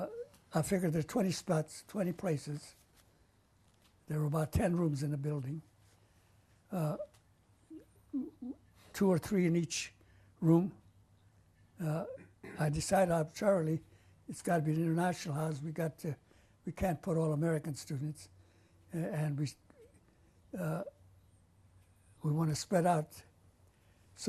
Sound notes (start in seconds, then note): 8.1 pauses for 3 seconds; 19.8 pauses for 3 seconds